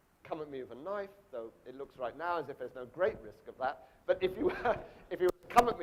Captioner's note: laughs